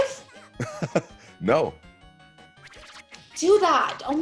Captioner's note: laugh